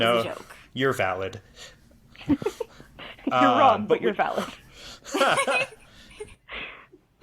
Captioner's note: laugh